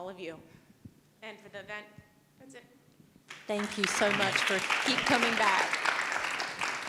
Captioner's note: applause